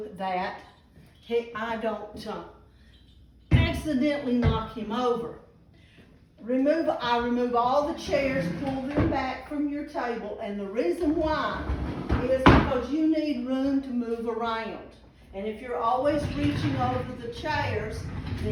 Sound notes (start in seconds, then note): 3.5 metal thuds; 7.8 chairs gliding